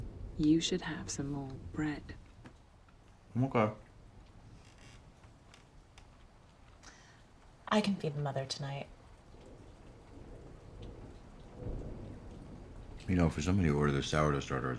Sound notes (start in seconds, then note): 9.7 thunder rumbling